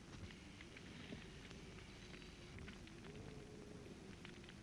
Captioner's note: wind blowing